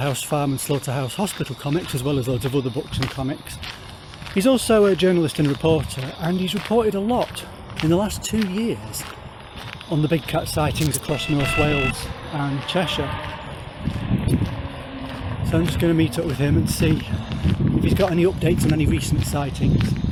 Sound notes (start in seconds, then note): none